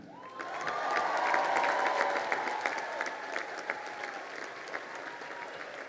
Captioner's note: crowd cheering and applauding